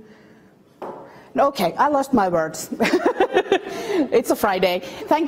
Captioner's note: laughs